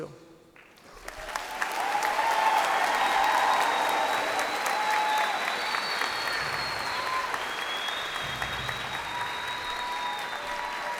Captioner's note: cheers and applause